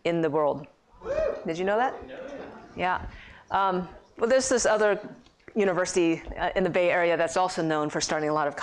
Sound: cheers

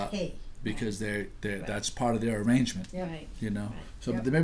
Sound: voiceover

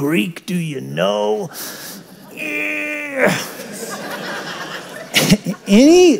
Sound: grunts

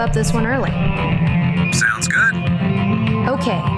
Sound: intercom

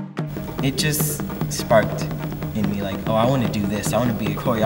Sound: voiceover

